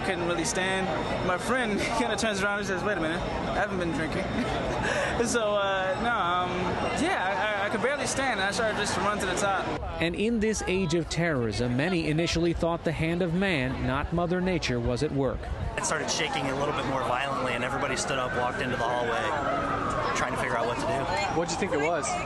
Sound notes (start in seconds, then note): 4.3 laughter